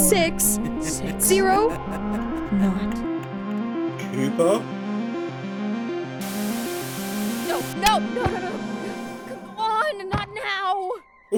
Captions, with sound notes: “Input the numbers 4, 6… 0…” “Four, six…knot…” “Cooper…?” [ TV STATIC ] [ TV STATIC ] “NO! No no no, come on!! not nowww!“